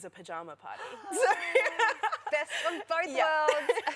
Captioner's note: laughter